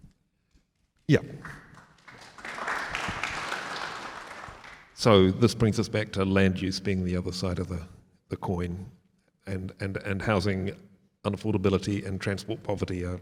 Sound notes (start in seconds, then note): 1.4 audience applauds